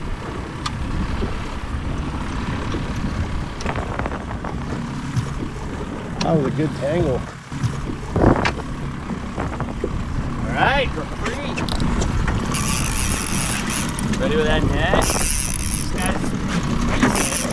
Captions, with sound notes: (boat engine rumbling) - That was a good tangle. - All right, we're free. (reel clicking) Ready with that net? This guy's decent.